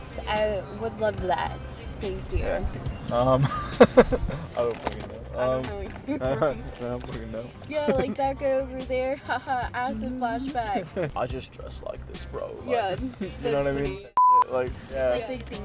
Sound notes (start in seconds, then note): 3.4 laughs